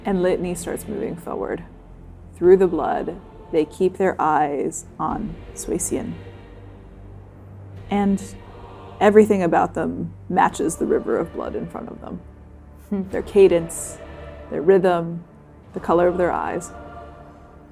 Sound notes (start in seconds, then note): none